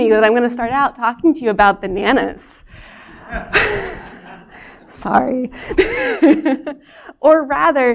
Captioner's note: laughter